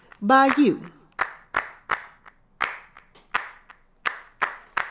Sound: hands clapping

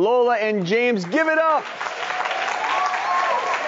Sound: crowd applauds

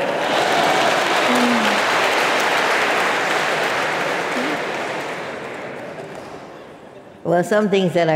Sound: applause

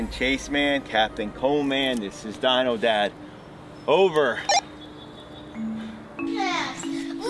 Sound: radio beeps

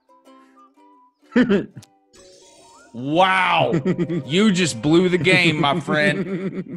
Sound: laugh

